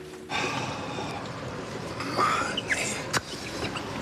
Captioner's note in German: stöhnt